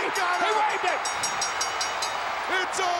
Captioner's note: bell dinging